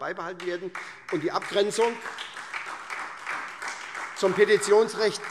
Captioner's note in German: Beifall SPD und vereinzelt Freie Demokraten